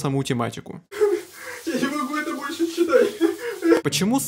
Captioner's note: crying